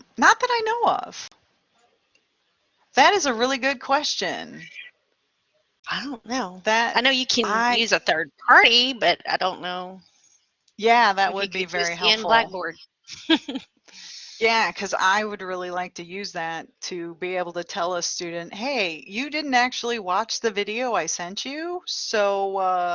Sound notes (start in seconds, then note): 13.1 laughter